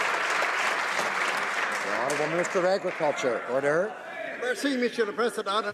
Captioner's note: some Applause